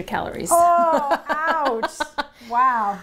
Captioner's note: laughing